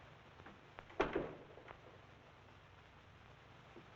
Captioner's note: door Closes